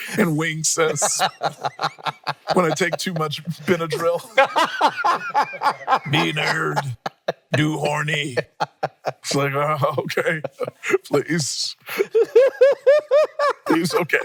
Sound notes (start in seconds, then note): 4.7 everyone laughing; 11.8 laughing